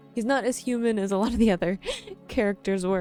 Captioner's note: chuckles